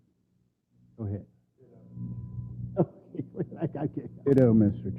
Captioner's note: laugh